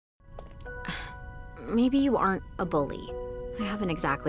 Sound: exhales

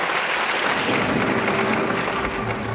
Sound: thunder

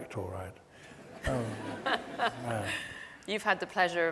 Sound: audience laughs

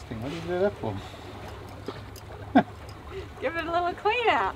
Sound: laughing

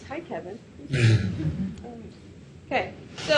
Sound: audience chuckles

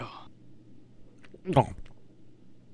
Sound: nom

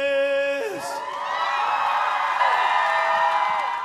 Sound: audience cheers

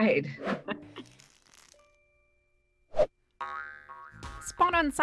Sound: logo crackles; upbeat music

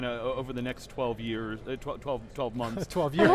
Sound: laughs

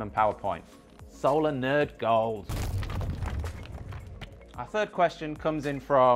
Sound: lines crashing

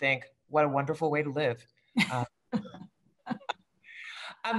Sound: laughter

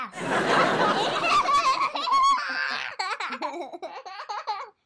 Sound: audience laughs; girls giggle

